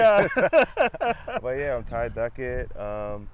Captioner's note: laughing